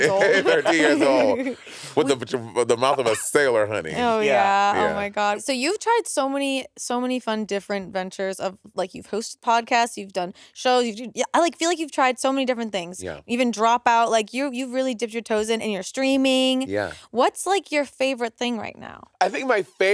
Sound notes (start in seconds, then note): 0.0 all laughing